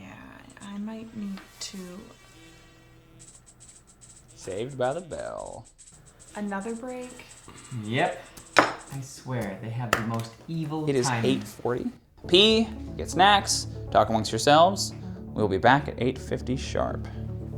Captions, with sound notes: Yeah, I might need to– (alarm ringing) Saved by the bell. Another break? Yep. I swear, they have the most evil timing. It is 8:40. Pee, get snacks, talk amongst yourselves. We will be back at 8:50 sharp.